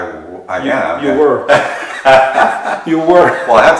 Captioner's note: laughter